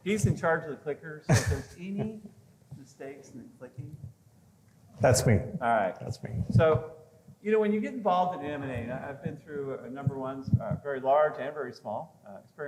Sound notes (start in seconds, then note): 1.2 laughs